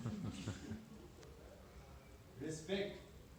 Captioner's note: everyone laughs